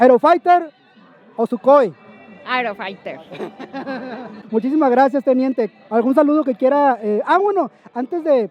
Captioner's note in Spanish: risas